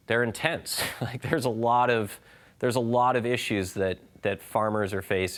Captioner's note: laughing